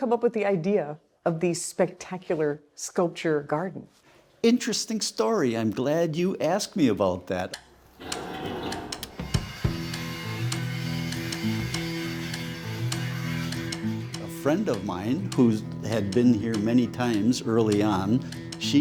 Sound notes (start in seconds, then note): 7.9 sculpture creaks; 9.7 sander whirring